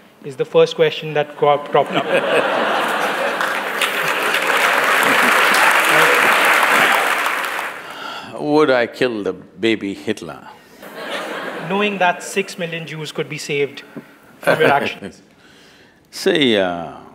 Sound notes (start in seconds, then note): 5.4 laughter/Applause; 10.8 laughter; 14.4 Sadhguru Laughs